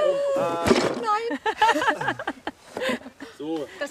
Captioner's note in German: Rumpeln